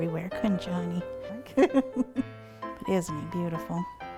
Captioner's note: laughing